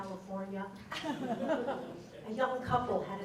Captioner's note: laughter